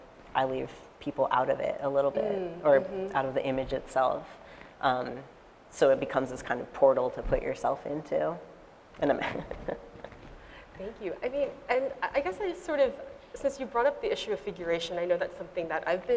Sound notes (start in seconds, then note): 9.1 laughs